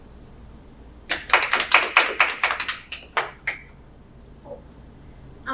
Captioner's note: panelists applauding